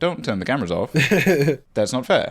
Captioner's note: laughing